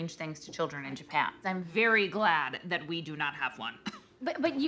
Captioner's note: laughs